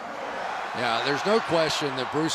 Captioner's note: cheering